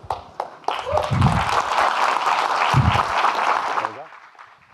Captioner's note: audience clapping